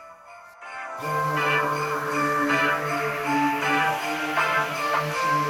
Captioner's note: orbital sander buzzing